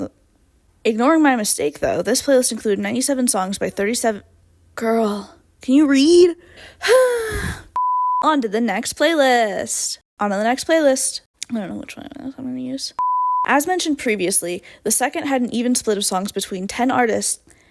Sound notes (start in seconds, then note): 6.5 dramatic sigh; 11.3 quietly